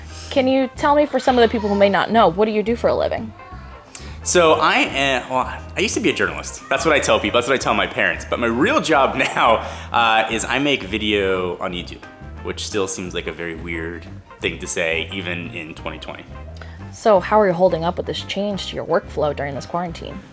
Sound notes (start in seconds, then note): 9.1 chuckles